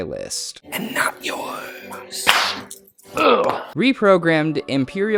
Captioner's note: whispering; claps and grunts